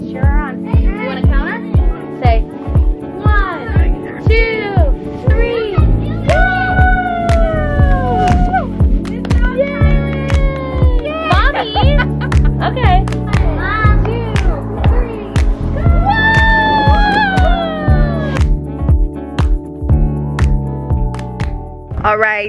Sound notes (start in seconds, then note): 6.1 exclaiming excitedly; 9.8 clapping; 11.1 laughing; 18.9 aesthetic music continues